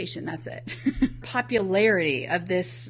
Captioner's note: laughs